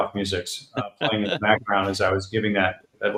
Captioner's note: laughs